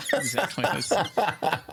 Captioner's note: laughing